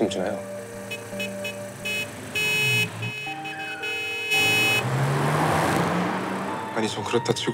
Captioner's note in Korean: 자동차 경적 소리